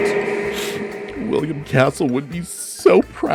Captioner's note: sniffles